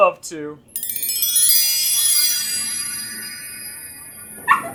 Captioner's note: sounds of a magic wand; puppy woofing happily